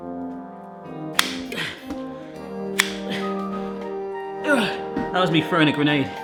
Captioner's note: classical music; slicer snapping; grunting